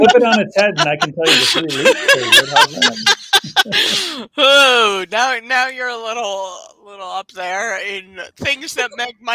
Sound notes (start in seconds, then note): 0.0 laughing; 3.6 all laughing